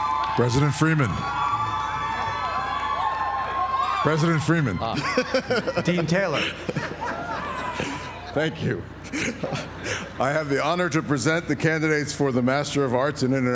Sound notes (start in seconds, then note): 0.0 applause; 4.9 laugh